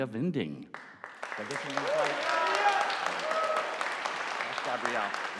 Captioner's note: audience applauding